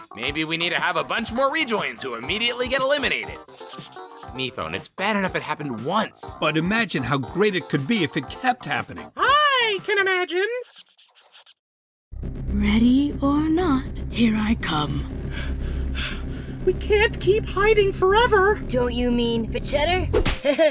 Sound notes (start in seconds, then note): 3.3 scribbling noises; 10.6 scribbling noises; 15.3 gasping for air